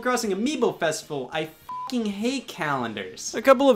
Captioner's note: beep